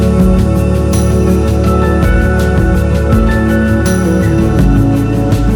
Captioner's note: humming vocalization